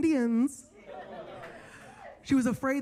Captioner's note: attendees laughing